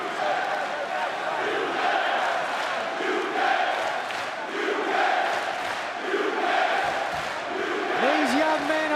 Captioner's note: crowd cheering